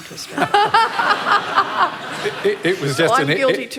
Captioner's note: laughter